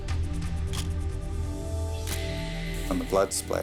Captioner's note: camera shutter click